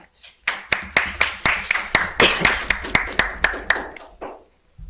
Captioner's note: audience applauding